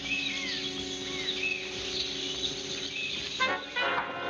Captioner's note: birds chirping